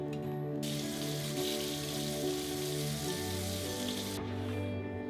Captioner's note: water splattering; soft music